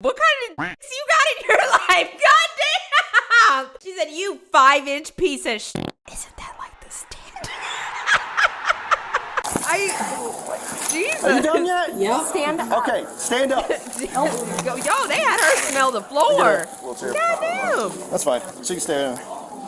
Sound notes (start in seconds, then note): 6.1 whispers